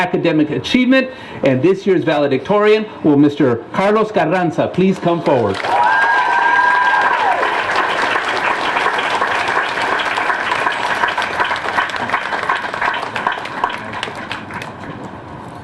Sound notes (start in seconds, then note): 7.7 cheering and applause